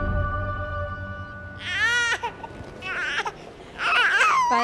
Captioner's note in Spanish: Llanto de bebé